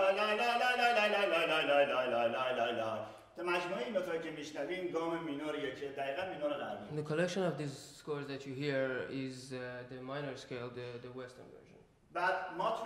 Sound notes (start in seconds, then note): 3.2 speaking in farsi; 12.6 speaking in farsi